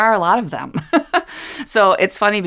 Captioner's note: laugh